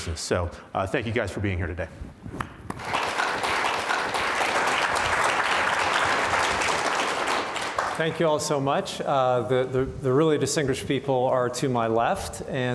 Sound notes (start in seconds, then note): 2.7 audience applauds